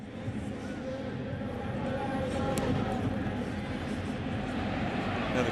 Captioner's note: pa announcement